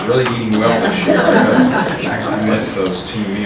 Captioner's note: audience chuckles